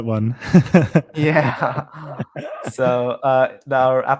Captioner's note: chuckles